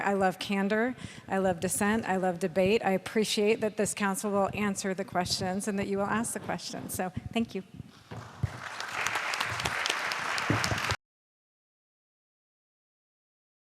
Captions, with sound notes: I love candor. I love dissent. I love debate. I appreciate that this council will answer the questions and that you will ask the questions. So thank you. [ Applause ]